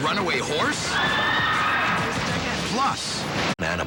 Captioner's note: crowd screaming